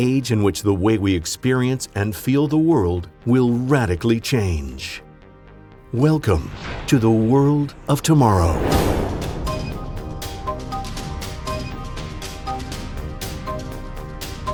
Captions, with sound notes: An age in which the way we experience and feel the world will radically change. Welcome to the world of tomorrow. (crash) (electronic music)